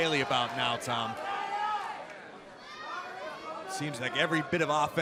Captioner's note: crowd cheering